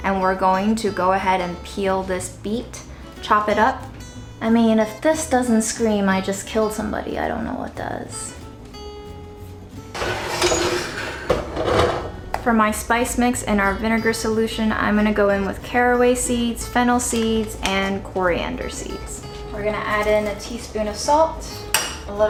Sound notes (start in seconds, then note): 8.8 country music; 9.9 scrapping sound